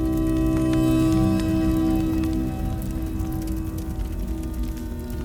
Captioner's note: fire crackling continues; ominous music continues